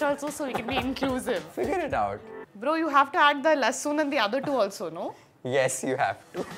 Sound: laughs

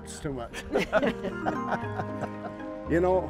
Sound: laughing

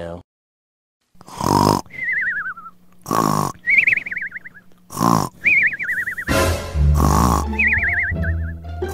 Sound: snoring

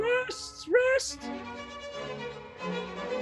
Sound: high voice

